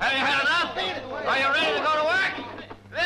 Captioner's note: shouting